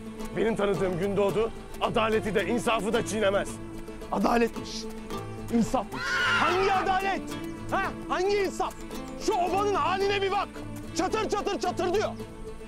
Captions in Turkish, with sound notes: Benim tanıdığım Gündoğdu, adaleti de insafı da çiğnemez. Adaletmiş! İnsafmış! (Kişneme) Hangi adalet he? Hangi insaf? Şu obanın hâline bir bak. Çatır çatır çatırdıyor!